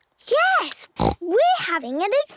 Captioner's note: snort